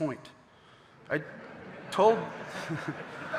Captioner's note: audience laughing